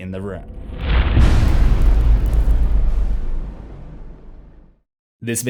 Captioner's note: impact